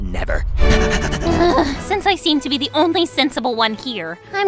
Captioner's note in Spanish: gruñe